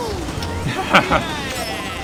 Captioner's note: laughter